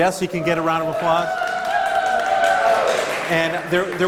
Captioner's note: applause